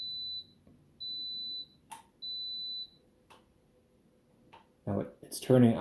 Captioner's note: three beeps